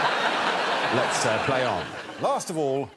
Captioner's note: all laughing